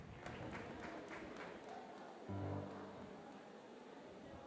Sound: audience chatting

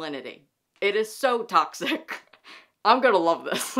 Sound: laughs

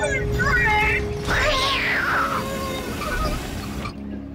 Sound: whimpering

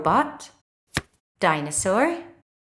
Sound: the sound of a card being turned over can be heard

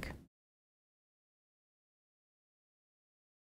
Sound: silence

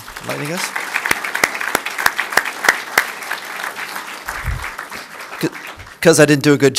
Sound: applause

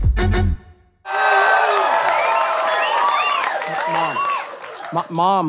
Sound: audience cheering

